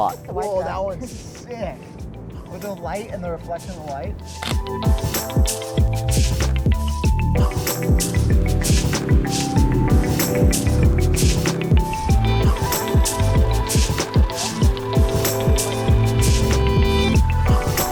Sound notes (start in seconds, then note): 4.4 camera shutters; 8.7 engines roaring